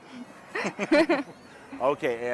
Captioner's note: both chuckling